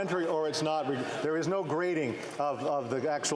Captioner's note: some Applause